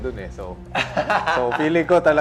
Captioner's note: laughs